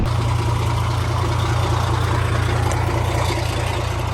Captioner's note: truck idling